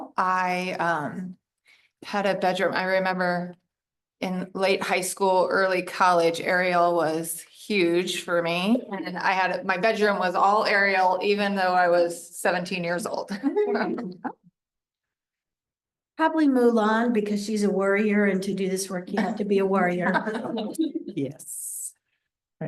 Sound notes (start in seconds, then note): 13.2 laughter